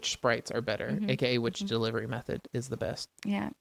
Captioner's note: laughs